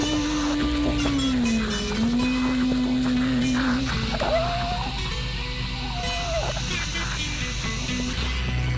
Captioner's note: evil whispers